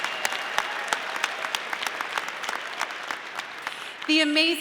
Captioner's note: audience applauding